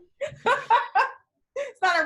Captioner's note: laughing